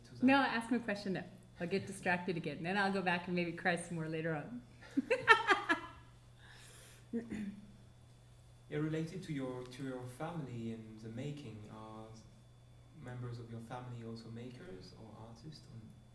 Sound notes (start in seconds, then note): 4.9 laughing